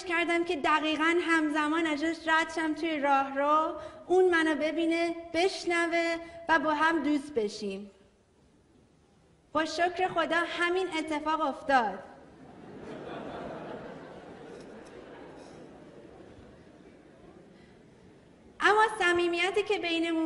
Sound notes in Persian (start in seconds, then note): 12.3 خنده‌ی حضار